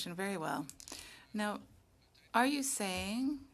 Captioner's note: speaking French